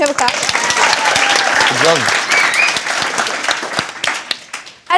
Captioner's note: cheering and applause